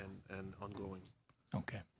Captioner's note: speaking French